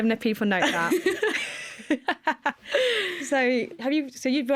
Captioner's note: laughter